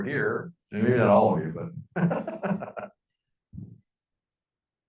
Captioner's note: laughing